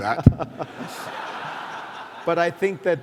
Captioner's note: laughter